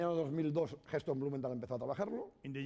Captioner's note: speaking spanish